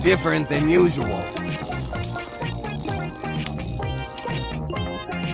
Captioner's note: satisfying tink sounds as they collide